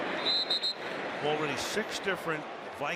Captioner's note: whistle